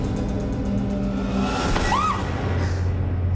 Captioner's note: screams